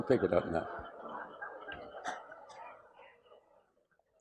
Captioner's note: laughter